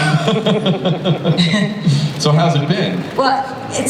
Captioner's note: laughs